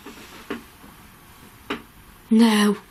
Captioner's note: taps